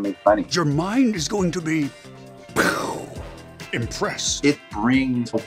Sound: mimics explosion

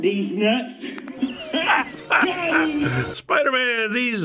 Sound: laughs heartily

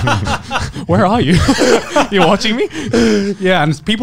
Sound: hyperventilating; laughing

